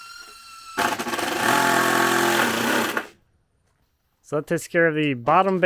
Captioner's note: drill rattling